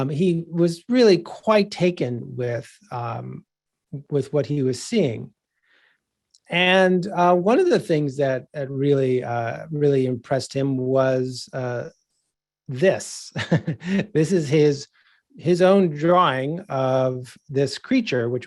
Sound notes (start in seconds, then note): 13.3 giggling